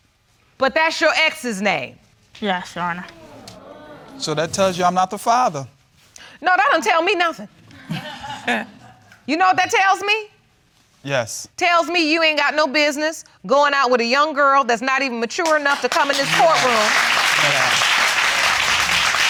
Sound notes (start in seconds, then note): 3.0 audience exclaiming; 7.7 laughs; 15.4 audience applauding